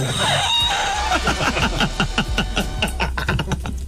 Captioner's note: laughing